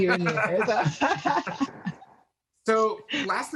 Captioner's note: both laughs loudly